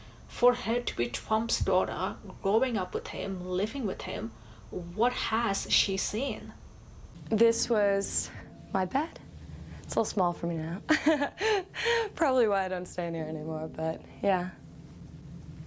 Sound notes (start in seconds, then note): 10.9 laughs